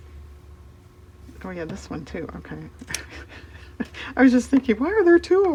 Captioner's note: laughs